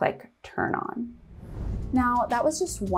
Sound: video whooshing

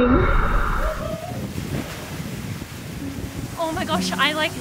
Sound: whooping

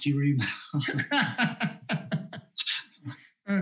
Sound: laughs

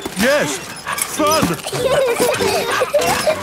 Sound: straining; peppa and george laughing

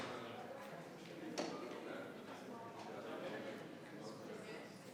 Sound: members chattering

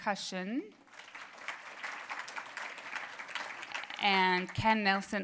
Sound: applause

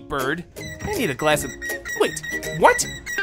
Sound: chirping

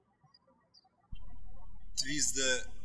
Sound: birds chirping

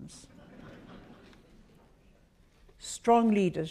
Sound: audience laughs

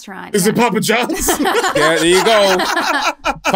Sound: laughter

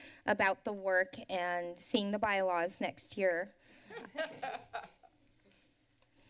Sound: laughter

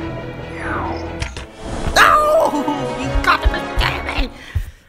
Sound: laugh

